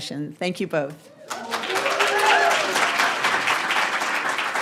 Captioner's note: audience applauding